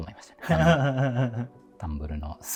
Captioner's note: laughing